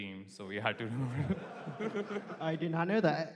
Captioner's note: laughter